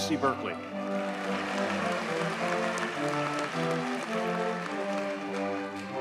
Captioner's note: audience cheers and applauds